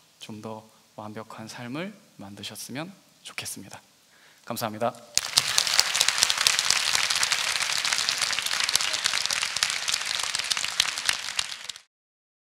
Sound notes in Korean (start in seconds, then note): 5.1 박수